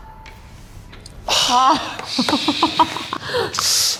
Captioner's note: deep sigh